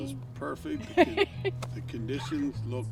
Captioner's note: laughs